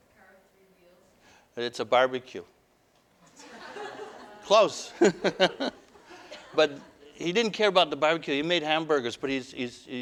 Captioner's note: laughter; audience: Laughter